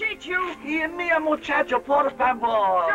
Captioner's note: Spanish spoken audio